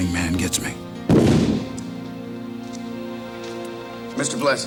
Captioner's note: camera flash pops